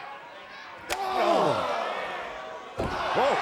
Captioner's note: fist slaps